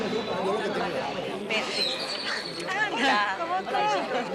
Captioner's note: both speaking Spanish